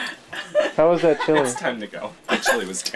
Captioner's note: laughing